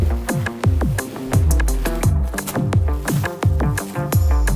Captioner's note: plastic ripping